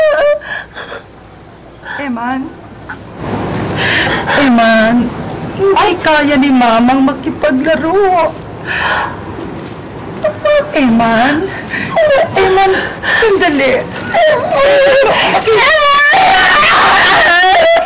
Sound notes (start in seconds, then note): 11.7 whimpering; 16.5 wailing